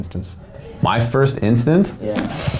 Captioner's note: sighing heavily